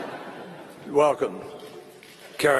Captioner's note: laughter